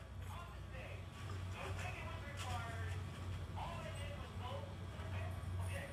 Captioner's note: radio chatter in background